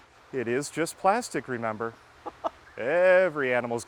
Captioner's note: laughing